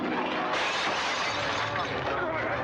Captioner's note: suspenseful music; glass breaking; sounds of scuffling; suspenseful music